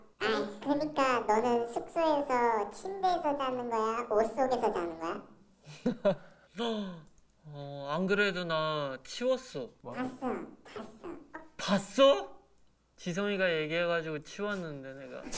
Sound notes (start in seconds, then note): 5.6 laughing